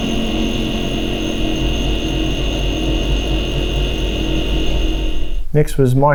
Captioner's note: compressor continues buzzing